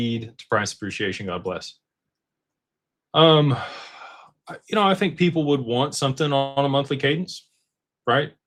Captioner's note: sighs and gasps